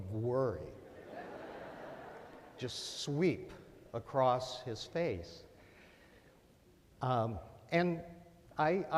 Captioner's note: laughter